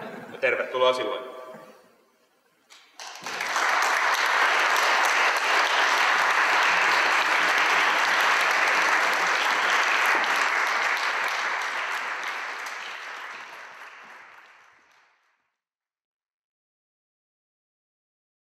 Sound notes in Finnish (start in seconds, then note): 2.8 Yleisö taputtaa innokkaasti